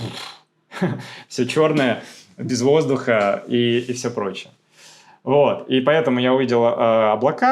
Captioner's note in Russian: фыркает